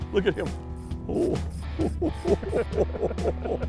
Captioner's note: laughter